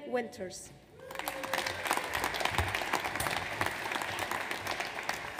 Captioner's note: audience applauds